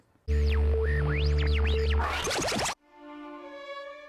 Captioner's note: static buzzing; uplifting music